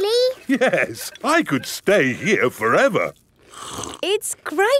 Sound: slurps

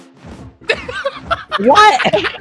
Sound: chuckles; laughing

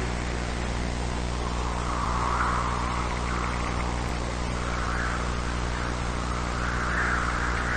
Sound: wind howls

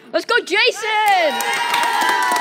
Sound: crowd cheers

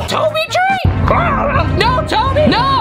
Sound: yelling in pain; gurgled scream

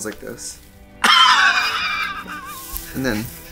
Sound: laughs

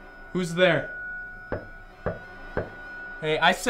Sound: knocking continues

